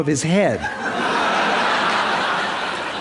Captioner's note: Laughter; 笑聲